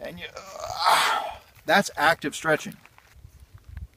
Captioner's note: groan- stretching